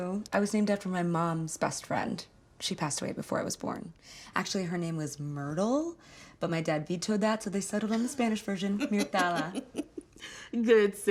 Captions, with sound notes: I was named after my mom's best friend. She passed away before I was born. Actually, her name was Myrtle, but my dad vetoed that, so they settled on the Spanish version, Mirtala. (Beverly laughs) - Good save, dad.